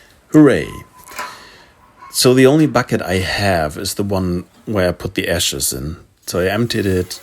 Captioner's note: sarcasm